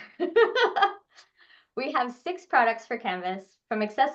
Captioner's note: laughs